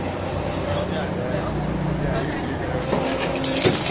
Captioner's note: none